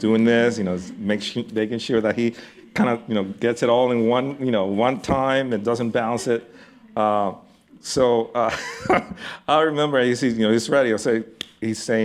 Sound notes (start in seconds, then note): 8.7 laughs